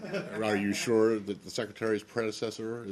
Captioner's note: laughter